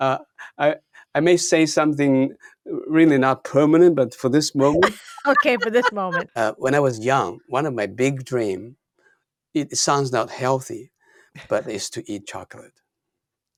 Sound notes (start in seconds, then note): 4.6 laughs